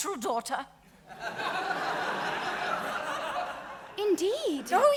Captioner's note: audience laughing